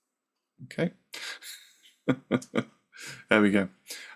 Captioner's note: chuckles